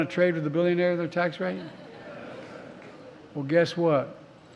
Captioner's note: laughter